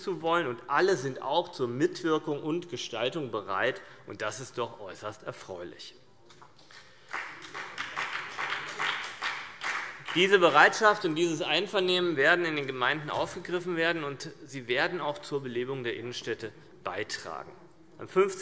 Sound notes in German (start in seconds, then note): 6.8 Beifall CDU und BÜNDNIS 90/DIE GRÜNEN